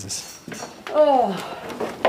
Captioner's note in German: seufzt